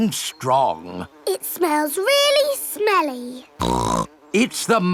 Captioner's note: snorts